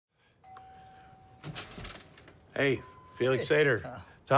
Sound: doorbell rings

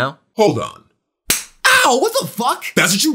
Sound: slap whamming

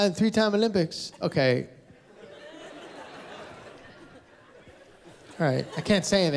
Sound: laughter

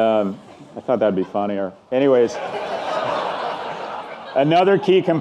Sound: audience laughing; audience laughing

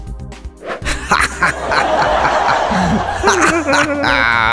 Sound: laughing

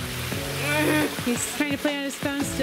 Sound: groans

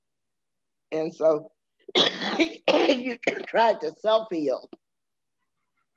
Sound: coughing

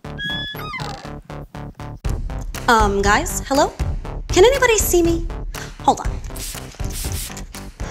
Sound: spray noises

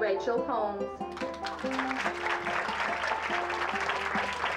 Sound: applause

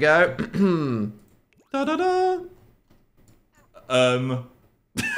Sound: Dan imitates fanfare

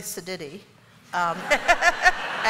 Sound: laughter

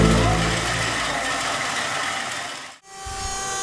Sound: saw whirls

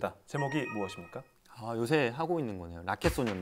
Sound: confident

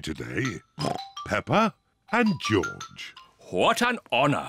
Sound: oinks

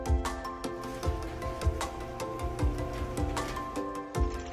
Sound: garage door opening; lawnmower engine clicks on

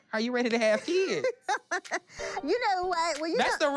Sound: laughs

